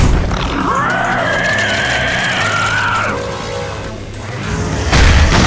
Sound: creature yelling

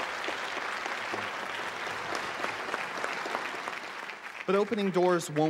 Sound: applause

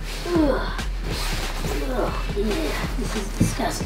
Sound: disgusted grunts

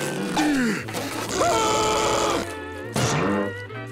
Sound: screaming

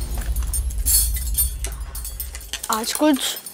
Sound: clanking

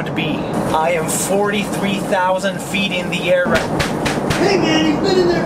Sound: door thuds

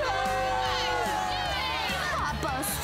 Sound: jeering

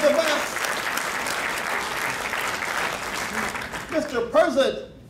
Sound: crowd clapping

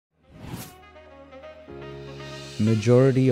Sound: air whooshing

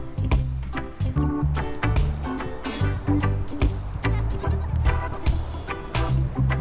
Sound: laughing

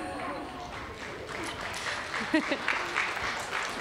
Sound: applause

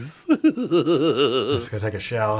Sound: laughing

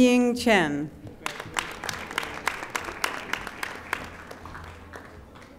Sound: audience applauding

